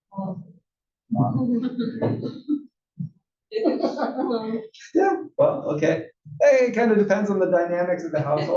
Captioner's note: laugh